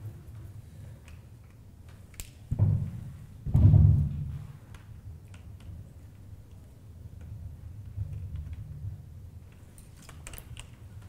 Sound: silence

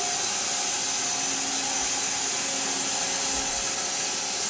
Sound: saw whirring

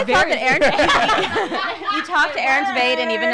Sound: laughing

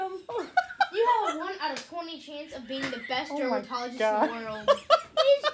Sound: laughter

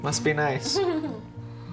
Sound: giggles

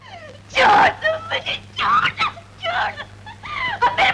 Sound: crying

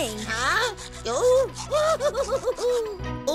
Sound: giggling

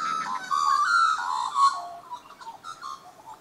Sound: birds calls

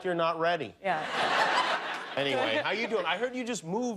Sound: laughter

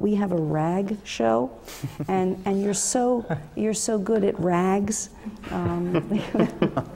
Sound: laugh

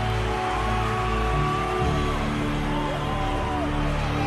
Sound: crowd cheering

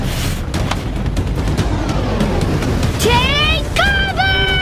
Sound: whooshing

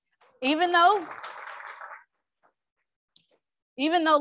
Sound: crowd applauds

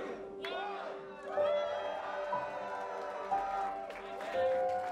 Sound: crowd cheers

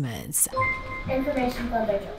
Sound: bell dings

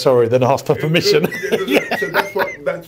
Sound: laughs

